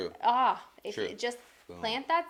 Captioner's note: exclaims